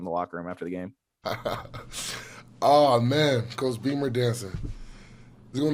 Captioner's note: laughs